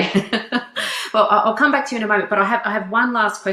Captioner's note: laughs